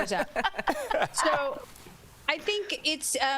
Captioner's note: laughter